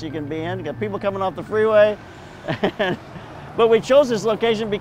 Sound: laughs

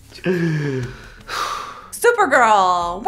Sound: sighs

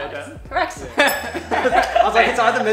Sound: laughs

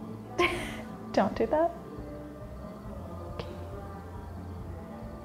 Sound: laughs

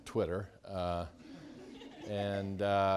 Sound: students laughing

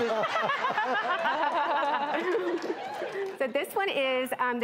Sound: all laugh

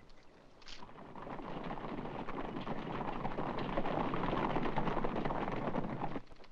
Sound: birds chirping; hooves pounding

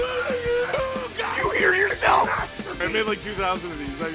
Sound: Harry potter screaming; screaming

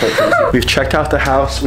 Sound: laughs

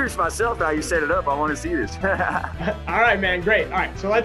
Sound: laughs

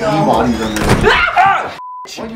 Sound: screams

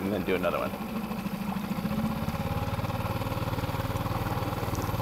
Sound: boat motor roaring

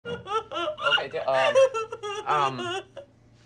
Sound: crying

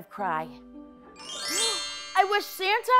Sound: chimes

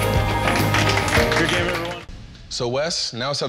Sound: audience applauding

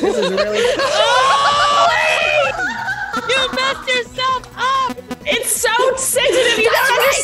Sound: laugh

